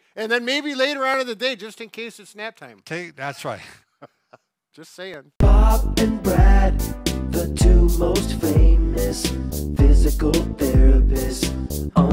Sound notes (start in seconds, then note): 3.6 chuckles